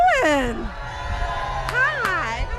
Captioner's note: cheering